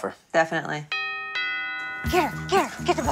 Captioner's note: doorbell rings